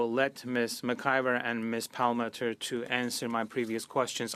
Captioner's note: speaking French